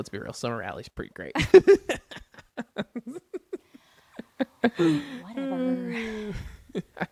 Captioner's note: laughs